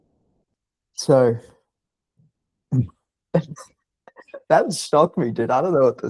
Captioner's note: laughing